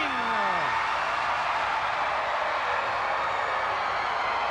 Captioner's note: crowd cheering